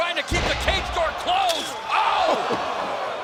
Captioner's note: cage door rattles